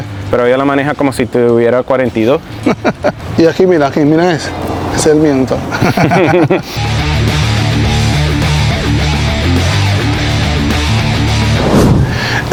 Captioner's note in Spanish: risas